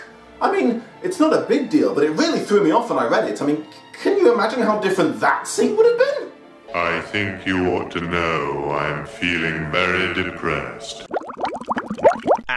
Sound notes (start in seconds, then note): 6.5 very deep, echoing voice; 10.9 lively bubbling noise